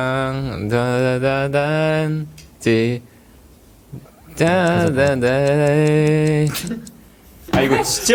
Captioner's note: hums